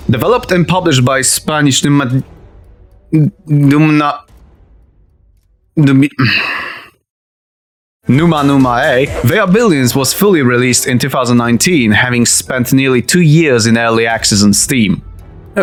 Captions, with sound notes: Developped and published by spanish Numani- ... N-Numna- ... Numi- *frustrated sigh* Numa-Numa-Ey, They Are Billions was fully released in 2019, having spent nearly 2 years in Early Access on Steam.